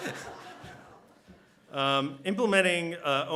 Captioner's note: laughter